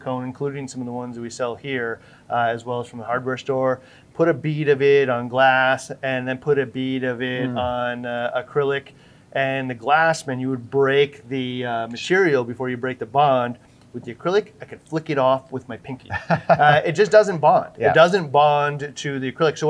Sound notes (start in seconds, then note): 16.0 laughing